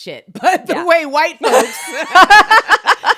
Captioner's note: laughs